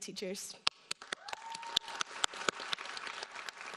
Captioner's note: applauding